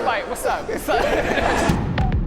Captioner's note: panelists laughing; pensive rhythmic music